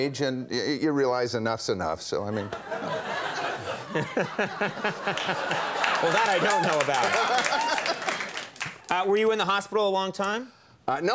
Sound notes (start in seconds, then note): 2.3 audience laughs; 3.3 Conan laughs; 7.4 Tom laughs